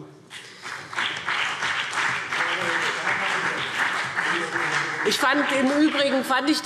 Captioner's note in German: Beifall BÜNDNIS 90/DIE GRÜNEN und vereinzelt CDU